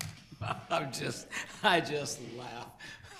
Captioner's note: laughing